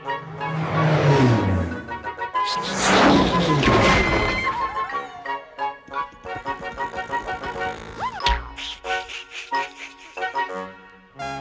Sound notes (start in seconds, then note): 2.5 laughing, zooming, crashing; 6.2 boink; 6.2 buzzing; 8.5 laughing